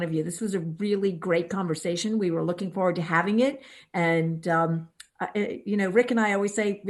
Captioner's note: none